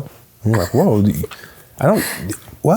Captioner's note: laughing